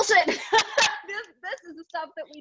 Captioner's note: laughs